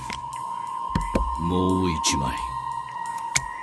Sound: Cris taps table

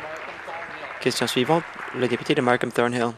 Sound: applause

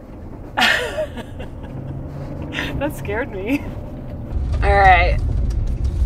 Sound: chuckling

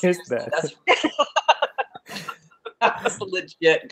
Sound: laughing

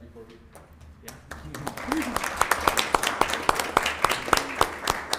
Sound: attendees clapping

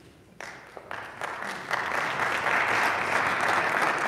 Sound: audience applauding

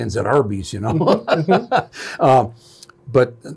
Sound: lauging

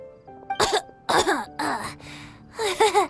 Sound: cough

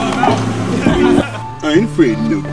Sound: laughs

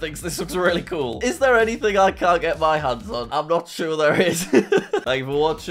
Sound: laughs

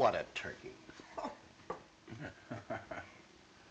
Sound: both laughing

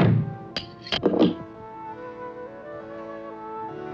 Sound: lock clacking

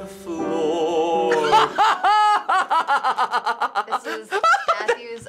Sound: soft piano music; bursts out laughing

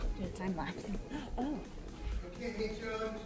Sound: gasps

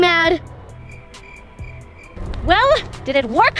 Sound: crickets chirp

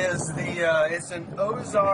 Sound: sound of water

